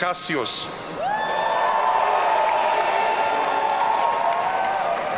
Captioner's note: audience cheering